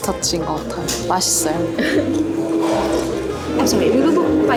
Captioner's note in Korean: 홀짝